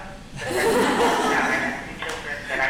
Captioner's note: audience laughing